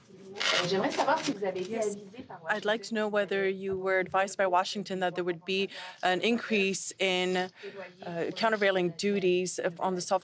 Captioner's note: speaking french